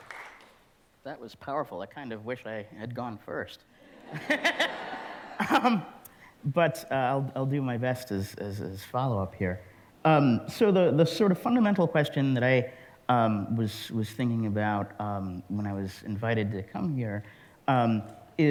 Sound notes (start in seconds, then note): 3.8 laughter